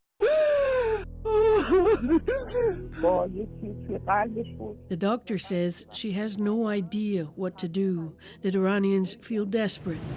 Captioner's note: crying